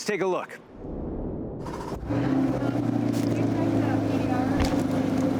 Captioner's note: engine starting